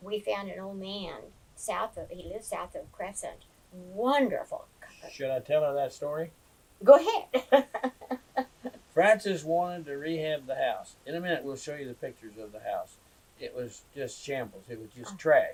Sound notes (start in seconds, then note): 9.0 laughs